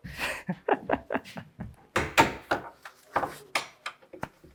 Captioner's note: laughing